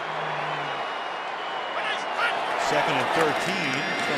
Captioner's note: pa announcement